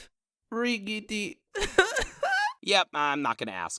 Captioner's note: yin cries